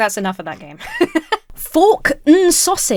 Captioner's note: laughs